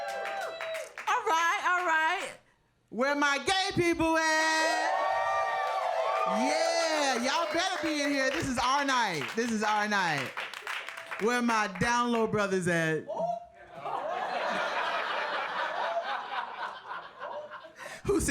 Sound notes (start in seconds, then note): 0.0 audience quiet cheering; 4.6 audience loud cheering; 13.7 audience laughing